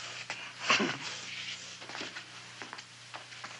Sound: chuckling

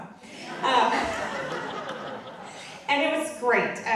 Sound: audience laughing

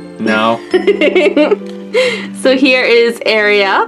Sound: laughs

